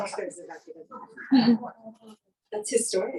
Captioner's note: chuckling